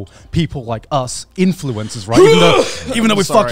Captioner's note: retching